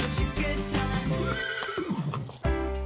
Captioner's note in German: Musik endet, Wiehern; Lockere Musik